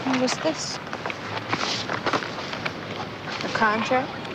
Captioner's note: paper rustling